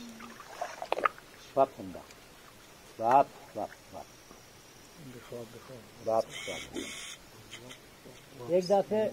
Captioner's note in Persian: صدای صحبت کردن با گاندوها